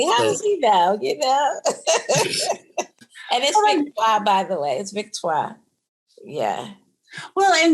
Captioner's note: laughter